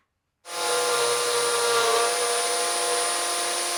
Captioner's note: driller whirring